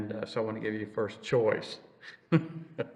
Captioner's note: laughs